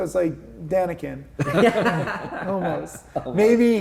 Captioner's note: everybody laughing